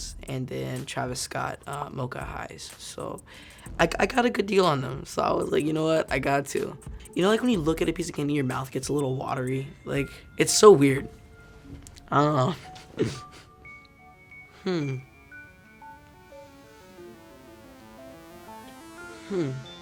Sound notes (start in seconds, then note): 12.5 Javon chuckling; 15.1 twinkling music